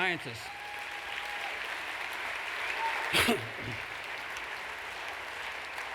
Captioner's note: applause